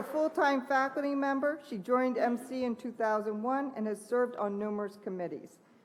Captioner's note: applause